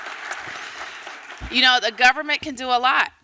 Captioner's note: applause